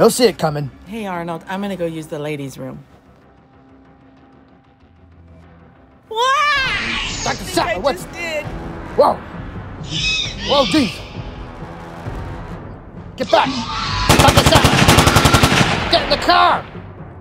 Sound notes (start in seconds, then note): 6.1 Dr. Sattler yelling; 14.0 gunshots